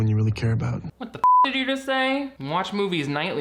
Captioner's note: beeps